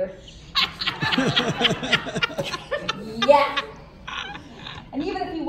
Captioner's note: laughter